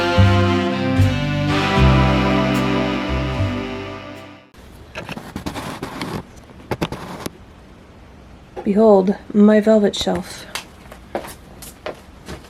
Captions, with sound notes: *camera zoom noises* Behold my velvet shelf.